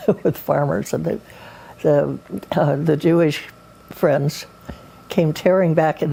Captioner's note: chuckles